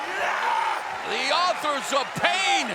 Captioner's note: wrestler grunts